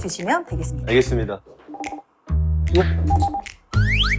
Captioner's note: ring ring